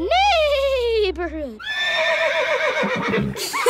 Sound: horse neighing; laughing

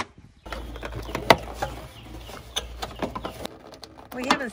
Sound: birds chirping

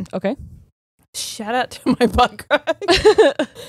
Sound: both laughing

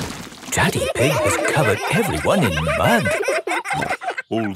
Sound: all laughing

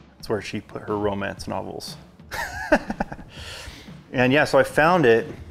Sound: chuckles

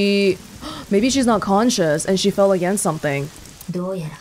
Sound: gasps

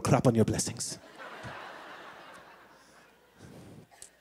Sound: laughter

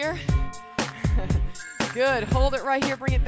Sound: chuckling

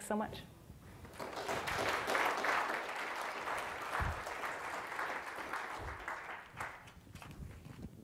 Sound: audience applause

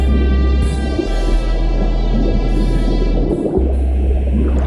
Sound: bubbling

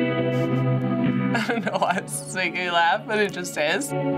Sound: chuckles

